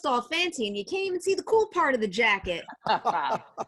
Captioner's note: laughing